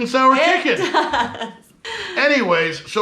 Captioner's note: laughing